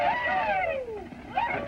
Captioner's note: whooping